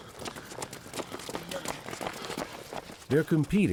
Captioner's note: footsteps pattering